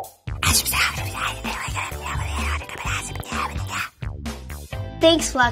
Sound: whispers

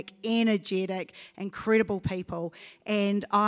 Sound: none

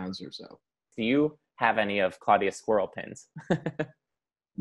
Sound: laughs

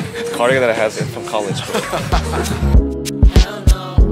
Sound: laughing

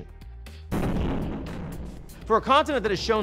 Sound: explosion blasting

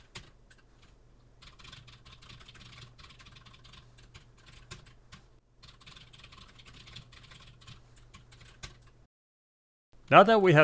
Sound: typing sounds

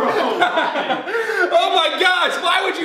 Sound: laughter

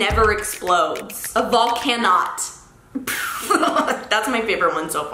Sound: laughs

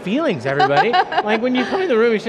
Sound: laughing

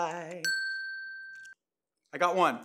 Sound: ding

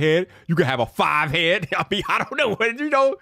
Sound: chuckles

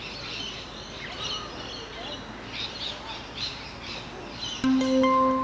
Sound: sound of birds chirping

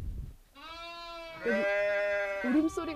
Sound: bleating sounds

